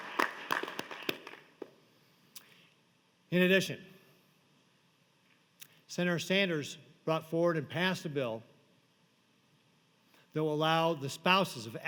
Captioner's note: applause